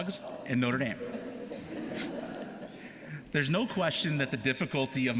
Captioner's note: laughter